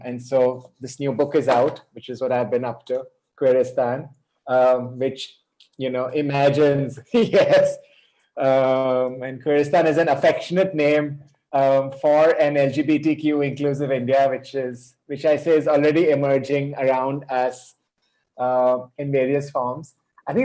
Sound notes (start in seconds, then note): 6.4 chuckles